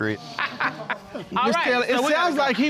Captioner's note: all laughing